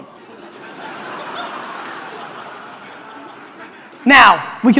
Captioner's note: audience laughter